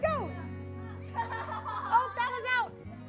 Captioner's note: children laughing